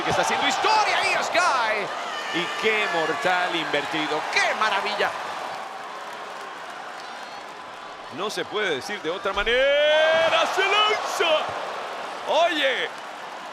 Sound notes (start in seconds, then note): 5.3 applause